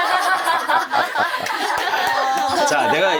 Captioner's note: everyone laughs